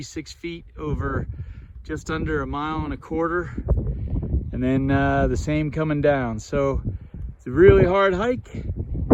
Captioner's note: wind blowing